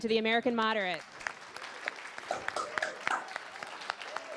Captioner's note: applause